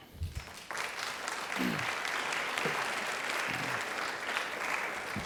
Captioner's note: audience applauding